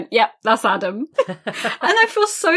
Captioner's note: laughs